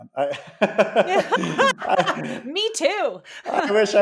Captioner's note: laughing